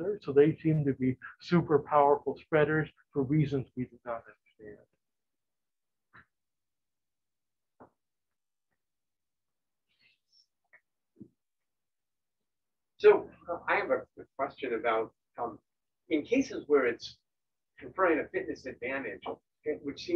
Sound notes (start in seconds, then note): none